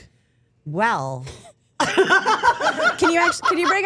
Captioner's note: laughs